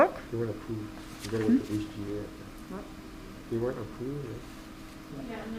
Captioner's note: people talking off-screen